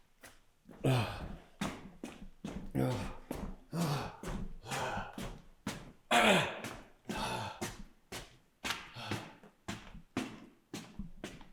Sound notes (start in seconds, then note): 2.5 Jacob panting